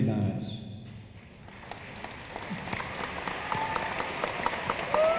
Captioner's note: room applauds